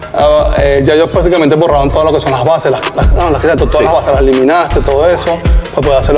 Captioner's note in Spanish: risas